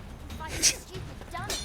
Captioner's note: laughs